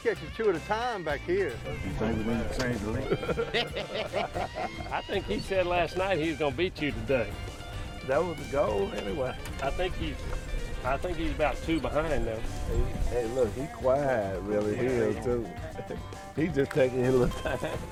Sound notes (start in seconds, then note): 1.5 men laughing